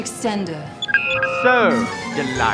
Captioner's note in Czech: elektronické zvuky